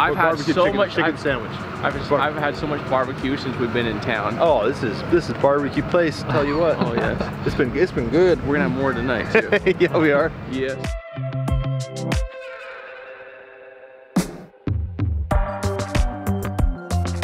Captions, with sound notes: - I've had so much chicken sandwich. - I've haven't had so much barbecue since we've been in town. Oh, this is, this is barbecue place. I'll tell you what it's been. It's been good. - We're gonna have more tonight. - (laughs) We are. - Yes. (upbeat music)